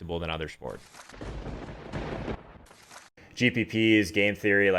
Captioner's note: lightning strike